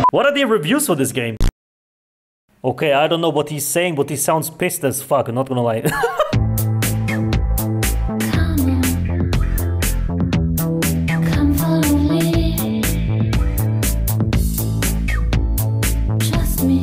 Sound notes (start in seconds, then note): 5.9 laughs